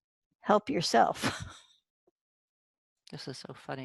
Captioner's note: chuckles